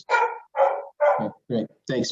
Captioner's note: dog barking